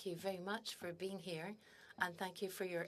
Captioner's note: speaking in French